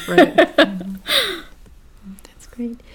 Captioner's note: laugh